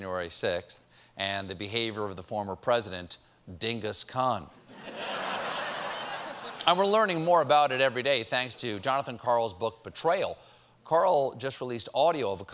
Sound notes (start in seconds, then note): 4.7 laughter